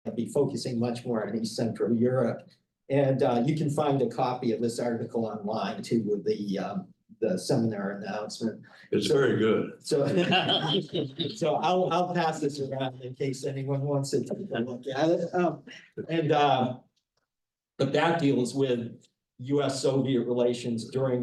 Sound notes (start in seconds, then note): 10.0 panelists laughing